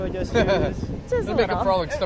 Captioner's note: laughs